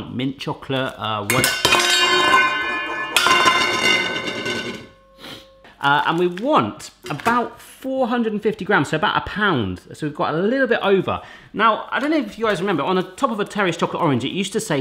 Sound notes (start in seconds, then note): 1.3 loud banging